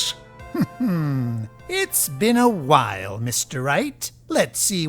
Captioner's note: chuckles